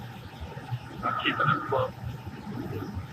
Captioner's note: radio